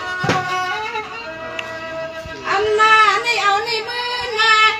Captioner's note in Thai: ปรบมือ